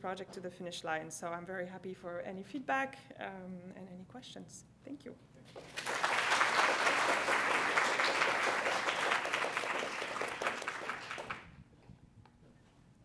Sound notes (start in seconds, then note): 5.6 applause